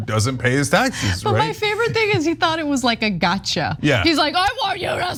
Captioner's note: laugh